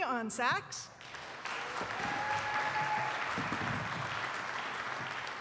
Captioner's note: attendees applauding